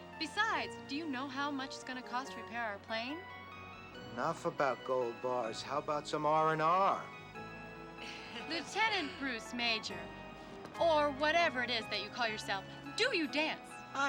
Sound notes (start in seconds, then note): 8.0 people laughing